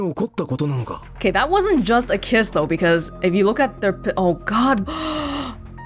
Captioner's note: gasps